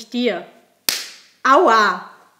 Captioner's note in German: Lautes Klatschen einer Ohrfeige